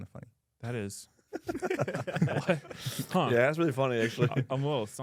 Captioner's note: laughs